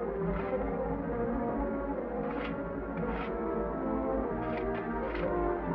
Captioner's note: tense music; shovel scrapes